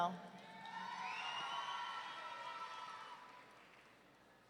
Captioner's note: audience cheering